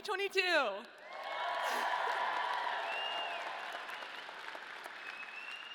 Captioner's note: audience cheering